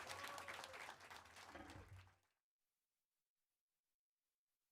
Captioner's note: applause